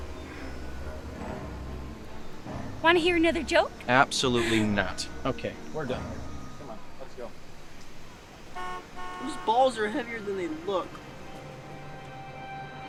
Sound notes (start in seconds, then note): 8.4 horn honking